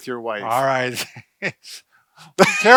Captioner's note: chuckles